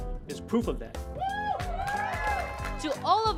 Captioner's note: crowd cheering